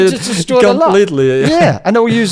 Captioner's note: laughs